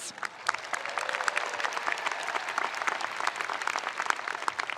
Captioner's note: spectators applauding